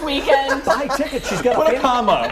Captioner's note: laughter